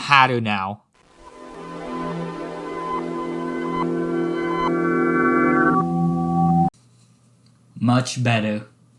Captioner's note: transformation sound